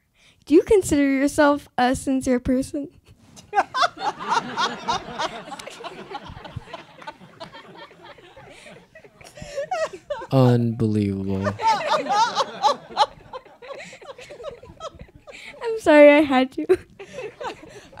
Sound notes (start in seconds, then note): 3.4 laughs; 11.8 audience laughs